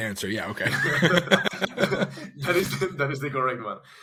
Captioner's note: all laughs